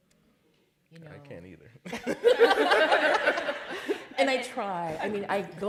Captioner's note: laughter